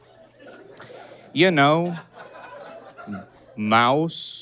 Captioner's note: audience giggles profusely